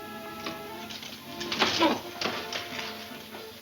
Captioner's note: grunting